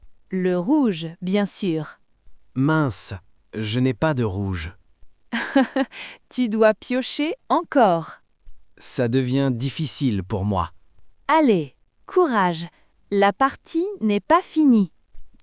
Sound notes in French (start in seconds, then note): 5.4 rire